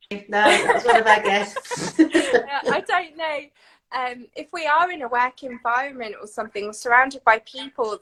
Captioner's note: laughing